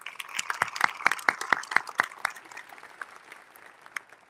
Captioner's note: audience applauding